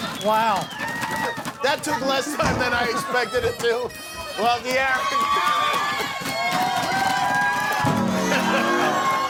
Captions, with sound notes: Wow. That took less time than I expected it to. Well De'Aaron-- [CROWD CHEERING]